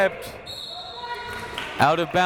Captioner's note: whistle tweeting